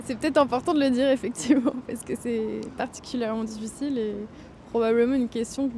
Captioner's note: laughter